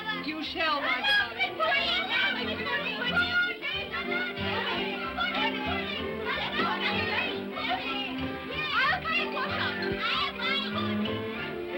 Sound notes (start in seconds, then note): 0.8 children clamor; 1.7 upbeat music